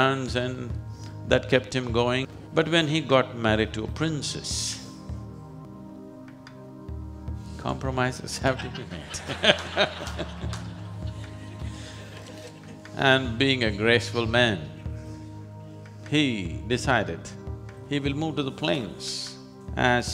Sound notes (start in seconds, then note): 8.4 laughter